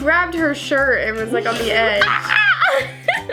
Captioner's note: laughs; screams